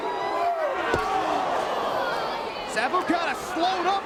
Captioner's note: spectators exclaiming